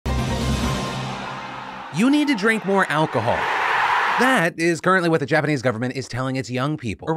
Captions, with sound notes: (dramatic music) - You need to drink more alcohol. (crowd cheering) That is currently what the Japanese government is telling its young people,